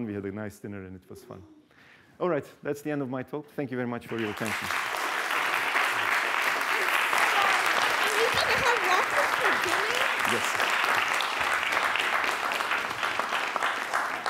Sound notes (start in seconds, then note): 5.2 applause